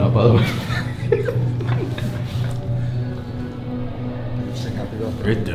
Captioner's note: laughing